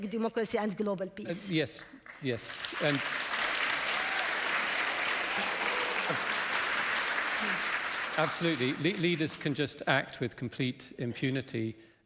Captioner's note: applause